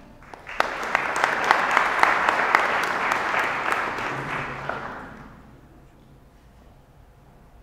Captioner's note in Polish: oklaski